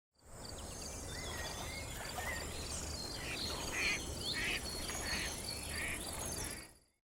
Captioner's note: birds Chirping